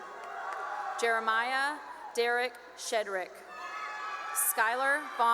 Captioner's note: cheering and applause; cheering; cheering and applause